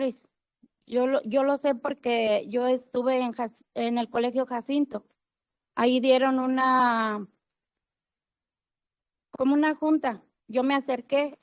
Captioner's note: speaking Spanish